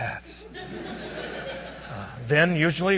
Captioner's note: audience laughs